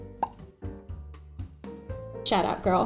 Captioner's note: popping noise